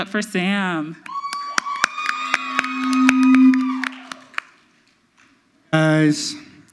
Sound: audience cheers; audience applauds

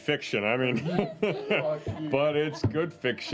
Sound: chuckles

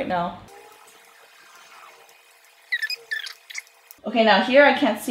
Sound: videotape squeaking

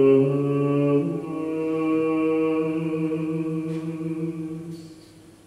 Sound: none

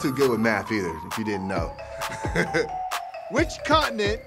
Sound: laughs

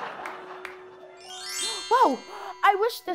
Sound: laughter; chimes

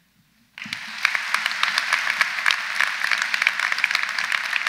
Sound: audience applauds

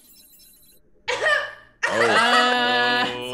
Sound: laugh

